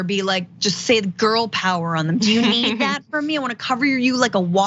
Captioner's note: laugh